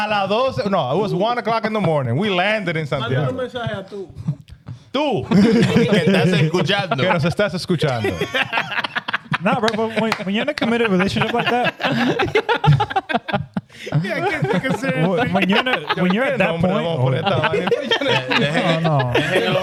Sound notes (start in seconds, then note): 5.2 laughing; 13.8 laughing; 17.4 speaking In Foreign Language